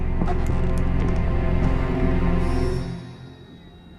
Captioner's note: torch clicks